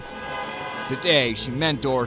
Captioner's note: car horns honking